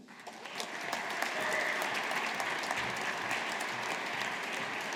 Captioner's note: audience applauding